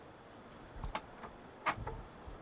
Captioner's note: door creaking